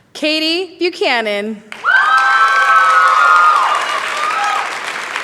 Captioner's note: cheering